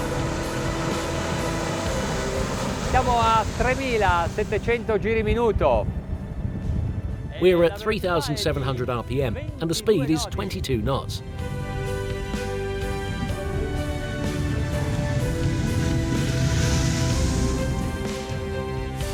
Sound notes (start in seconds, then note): 0.0 engine hums; 3.2 speaks in foreign language; 16.1 engine hums